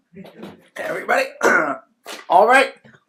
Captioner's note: clears throat